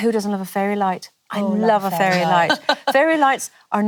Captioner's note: laughs